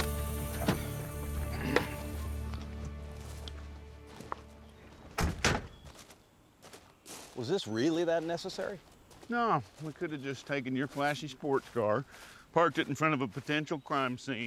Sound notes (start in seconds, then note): 0.0 upbeat country music; 0.5 car doors open; 5.2 car doors close